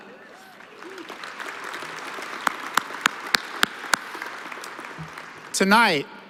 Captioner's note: applause